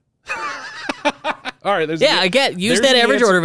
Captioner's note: laughs